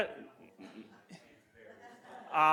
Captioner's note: laughter